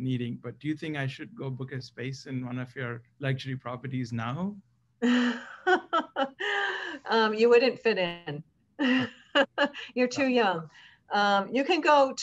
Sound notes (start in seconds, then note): 5.2 laugh; 8.8 laugh